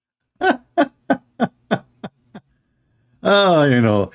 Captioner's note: Ketawa